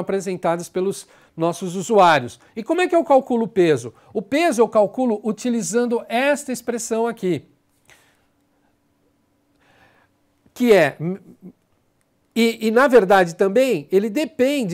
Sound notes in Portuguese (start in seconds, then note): 7.5 silêncio